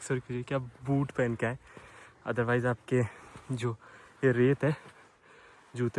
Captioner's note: breathing